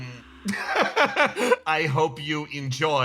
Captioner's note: laugh